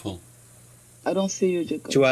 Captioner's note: speaks in French